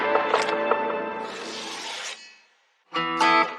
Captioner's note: blade scrapes; upbeat acoustic guitar music